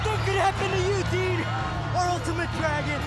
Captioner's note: crowd cheering